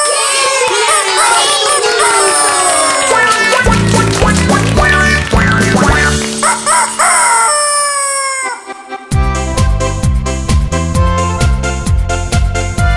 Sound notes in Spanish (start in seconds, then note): 2.2 Aplausos; 8.9 Música alegre